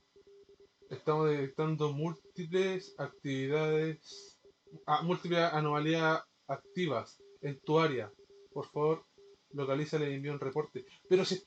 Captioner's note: reading again in spanish